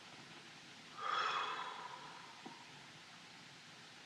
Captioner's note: exhales